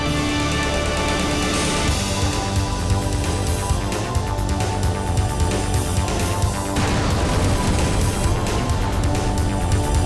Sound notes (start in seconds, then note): none